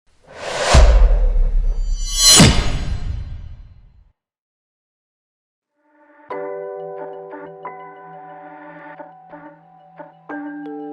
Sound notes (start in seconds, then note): 0.3 logo whooshes; 6.0 gentle instrumental music